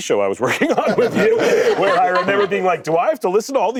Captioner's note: laughter